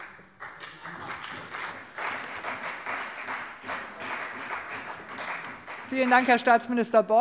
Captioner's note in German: Beifall CDU und BÜNDNIS 90/DIE GRÜNEN